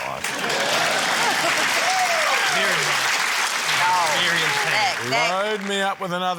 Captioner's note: cheering, applause